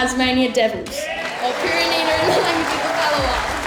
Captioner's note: cheering and applause